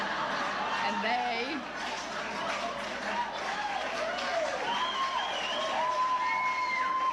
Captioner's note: laughter